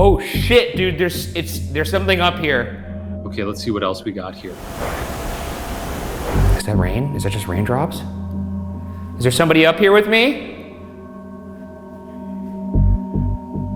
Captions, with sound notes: - Oh shit, dude, there's something up here. - Okay, let's see what else we got here. (mysterious tapping) - Is that rain, is that just raindrops? Is there somebody up here with me? (deep ominous music)